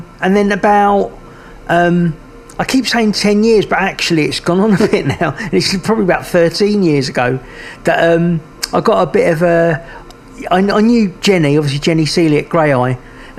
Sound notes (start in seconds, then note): 4.6 chuckles